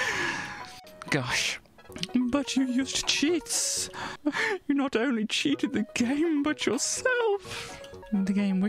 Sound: laughs again; mockingly

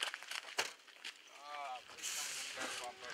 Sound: chatter

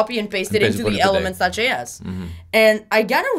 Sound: murmurs

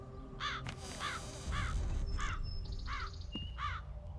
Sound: birds cawing

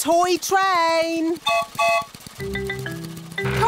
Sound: whistle blows

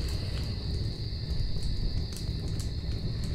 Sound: breathing

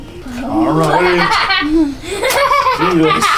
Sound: laughing

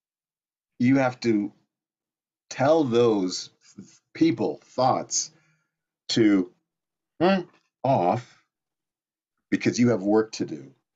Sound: vocalizes

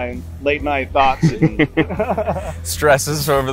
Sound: men laugh

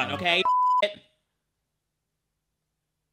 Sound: beep

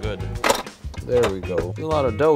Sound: metal snapping

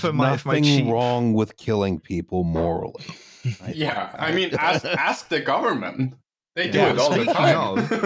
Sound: laughs

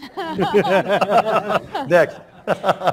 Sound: laughter

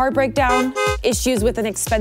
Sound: car honks

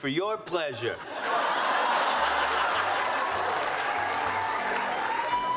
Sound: audience laughing

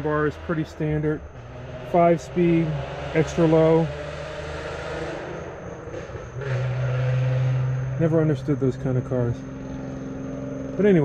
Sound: car in background - loud exhaust

